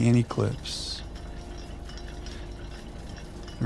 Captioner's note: rotor noises